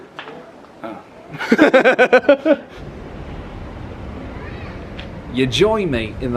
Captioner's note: laughs